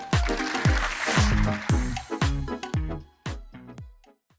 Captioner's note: upbeat music; audience applauds